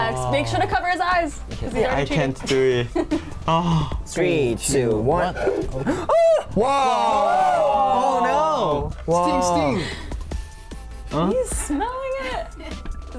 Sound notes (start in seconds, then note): 2.2 laughs; 5.8 exclaims